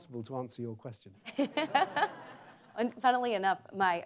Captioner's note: audience laughs